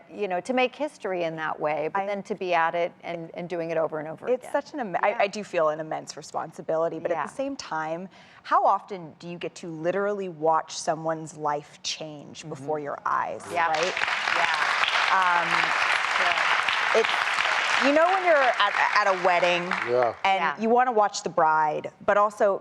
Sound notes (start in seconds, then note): 13.5 applause